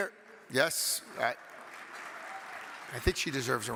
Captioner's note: audience clapping